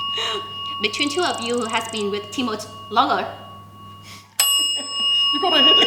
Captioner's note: rings the bell